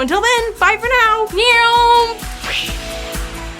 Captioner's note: mimics airplane; bright upbeat music